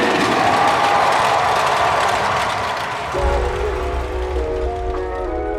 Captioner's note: crowd cheers and applauds